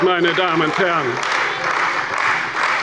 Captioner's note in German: Beifall bei der CDU